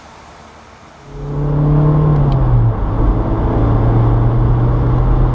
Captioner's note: engine roaring